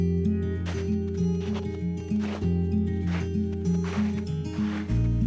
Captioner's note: soft music; snowshoes crunching